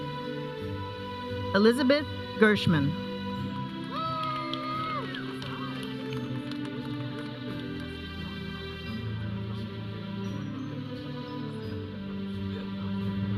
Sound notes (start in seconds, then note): 3.9 audience cheering; 5.8 audience chattering; 5.8 processional music